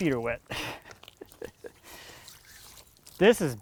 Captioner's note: laughs